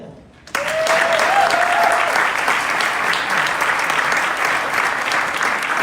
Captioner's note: crowd clapping and cheering